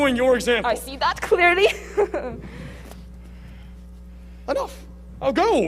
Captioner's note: laughing